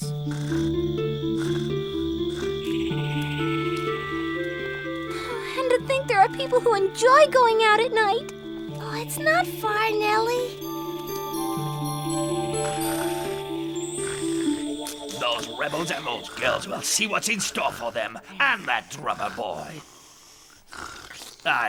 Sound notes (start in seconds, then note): 0.0 witch snoring; 0.2 crickets chirping; 11.4 eerie music; 11.4 witch snoring